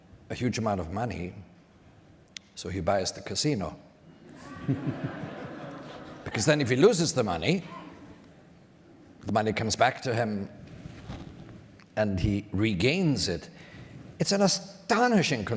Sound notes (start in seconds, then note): 4.2 audience laughter